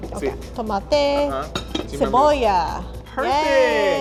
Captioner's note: speaking Spanish